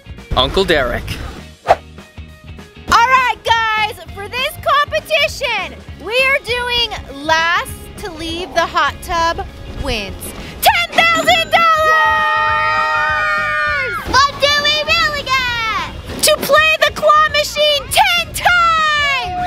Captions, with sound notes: - Uncle Derek. - All right guys, for this competition, we are doing last to leave the hot tub wins ten thousand dollars! (all screaming) - What do we really get? - To play the claw machine ten times!